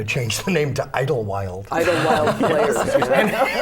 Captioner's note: laughter